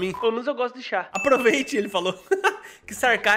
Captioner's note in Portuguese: risos